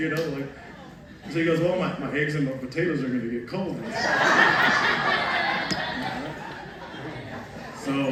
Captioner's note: laughter